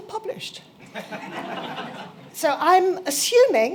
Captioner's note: laughter